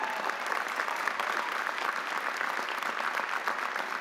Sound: audience applauding

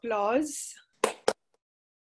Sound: clapping

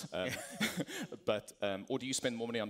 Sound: laughter

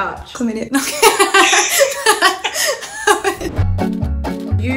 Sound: laughs

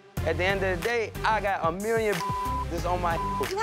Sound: beep

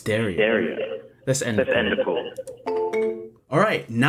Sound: phone beeps

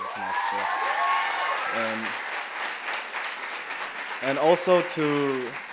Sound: applause and cheering

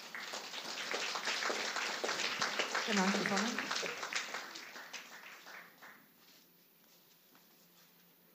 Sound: applause

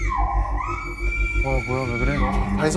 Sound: screaming; yelling

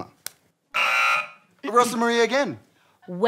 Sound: buzzer

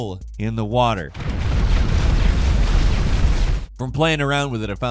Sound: C4 explodes

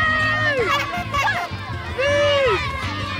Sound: horn honks

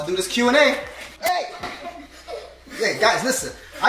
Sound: children laughing

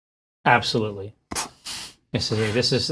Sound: snorts

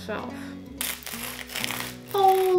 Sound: garlic crunches

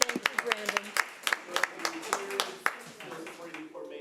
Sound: audience clapping; people laughing drowns speaker out

